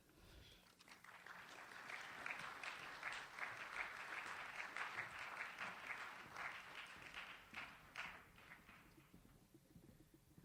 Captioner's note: audience applauds